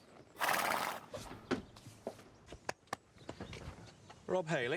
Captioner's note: horse snorts